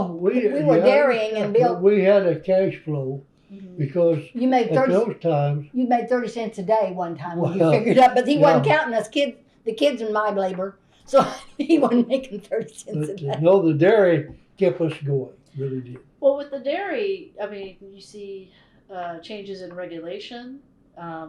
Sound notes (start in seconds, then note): 13.4 laughs